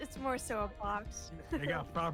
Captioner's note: giggle-tiggle; laughs